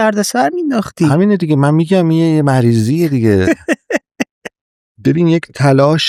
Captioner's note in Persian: خنده